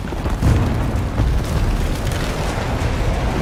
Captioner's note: rock creaking